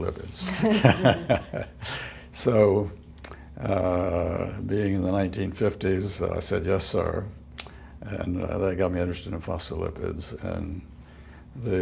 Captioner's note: laughter